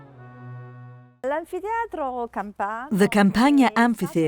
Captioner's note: speaking in foreign language